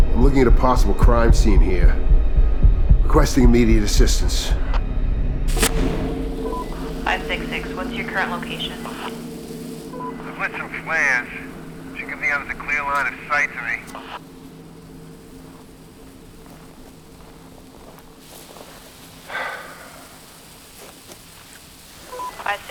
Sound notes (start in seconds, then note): 5.9 flare hisses; 15.8 flares hissing; 19.2 Reed exhales